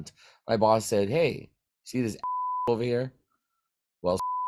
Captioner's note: beeps